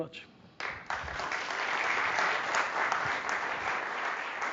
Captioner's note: audience applauding